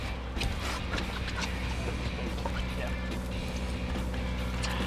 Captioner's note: shoes squeaking